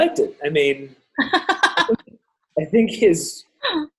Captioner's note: laughing